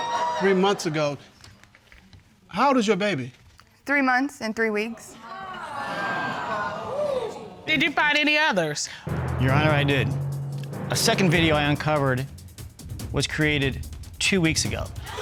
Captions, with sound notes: Three months ago. How old is your baby? Three months and three weeks. [audience reacts] Did you find any others? Your Honor, I did. A second video I uncovered was created two weeks ago.